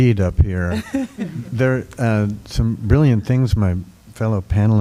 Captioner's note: laughter